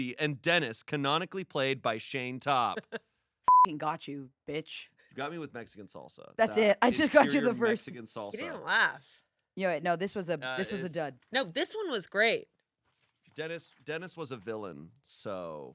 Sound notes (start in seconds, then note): 2.6 laughs; 3.5 beep